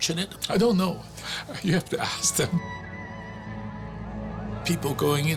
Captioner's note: chuckling